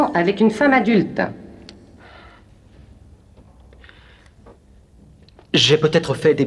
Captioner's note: sighs